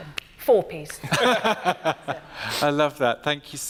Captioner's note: laughs